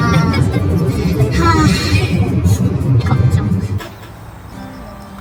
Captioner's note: you can feel how ridiculous I feel through my deep sigh